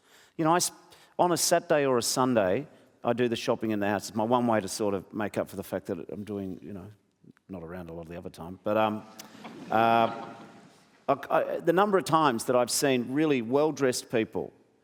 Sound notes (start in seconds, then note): 9.2 audience chuckles